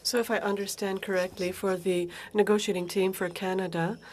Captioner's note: speaking French